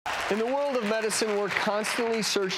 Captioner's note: audience applauding